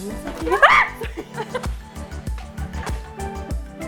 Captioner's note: laughing